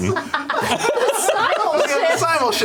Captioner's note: laughter